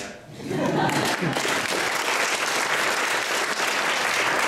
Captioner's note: applause